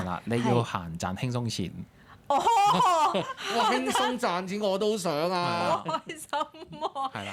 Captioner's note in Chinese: 眾人笑